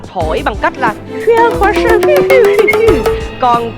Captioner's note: imitate flute blowing